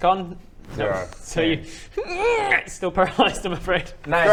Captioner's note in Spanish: hrrrgnh